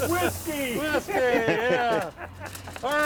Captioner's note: laughing